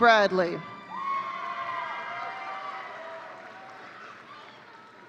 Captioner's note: audience cheering